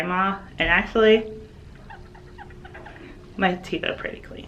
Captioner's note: tooth squeaking